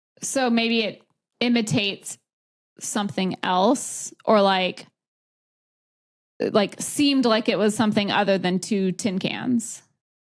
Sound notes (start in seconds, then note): none